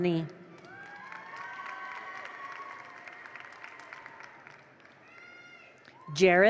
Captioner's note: attendees cheer; attendees applaud